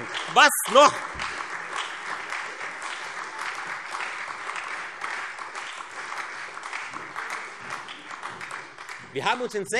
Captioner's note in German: Lebhafter Beifall Freie Demokraten und SPD